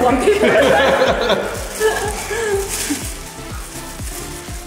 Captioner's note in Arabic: يضحك